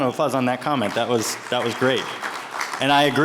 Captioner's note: attendees applauding